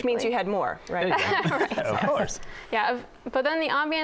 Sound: laughs

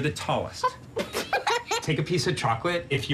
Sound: laugh

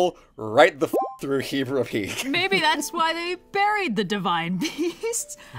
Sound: laughs

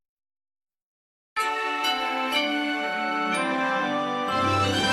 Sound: digitally-remastered chime plays

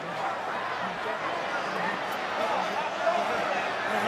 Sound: crowd chattering

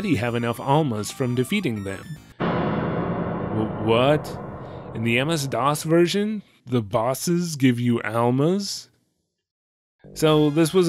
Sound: shock noise

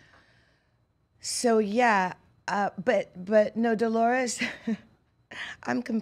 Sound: laughs

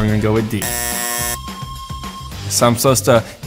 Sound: upbeat music; buzzer buzzing

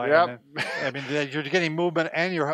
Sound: chuckles

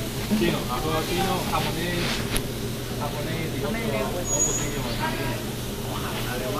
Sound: spanish

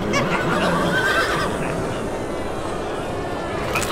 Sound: whinnying

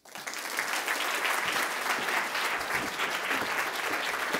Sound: audience applauding

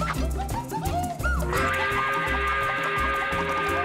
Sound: train whistle blowing

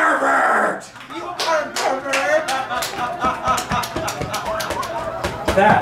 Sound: laughter

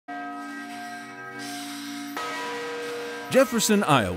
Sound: bell rings

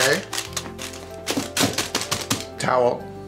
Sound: bowl clanking

